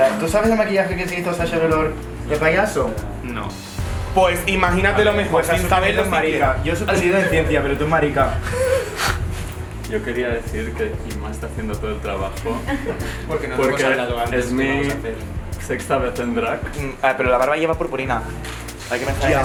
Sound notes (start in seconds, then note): 8.2 they laugh